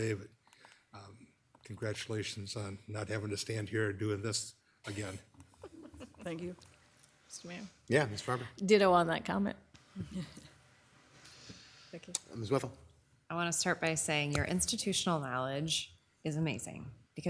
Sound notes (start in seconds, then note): 5.4 member chuckling; 11.2 laughing